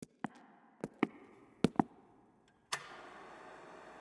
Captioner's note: footsteps thudding